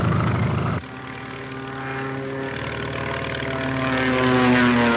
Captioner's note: plane engine revs